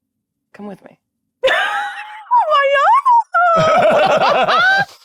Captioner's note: giggling